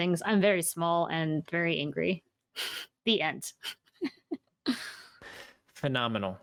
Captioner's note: laughs